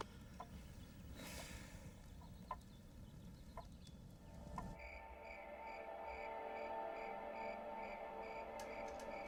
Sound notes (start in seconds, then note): 1.2 sighs; 4.7 crickets chirping